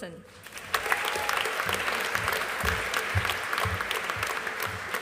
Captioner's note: audience applauding